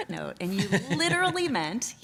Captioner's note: laughs